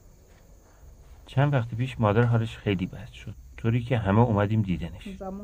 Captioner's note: speaking foreign language